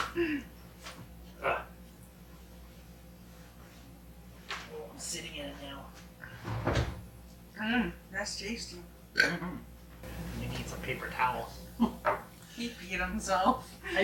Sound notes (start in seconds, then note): 9.1 burps